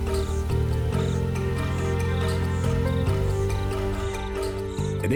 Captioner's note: birds chirping